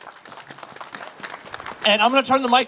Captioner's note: applause